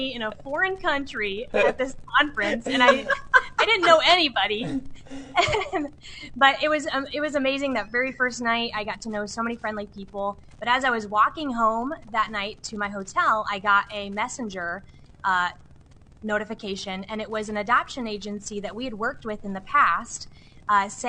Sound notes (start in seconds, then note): 2.4 laughs